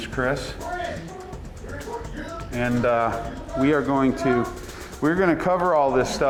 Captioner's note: shooter screams incoherently